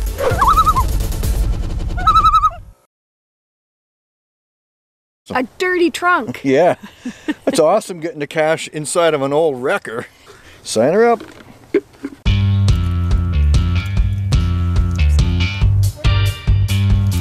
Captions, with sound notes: [loon call] [loon call] -A dirty trunk. -Yeah. It's awesome getting to cache inside of an old wrecker. Sign her up.